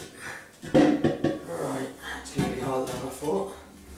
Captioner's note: banging